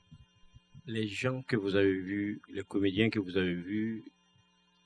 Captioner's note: speaking french